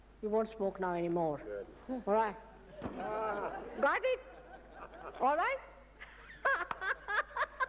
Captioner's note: mother laughs loudly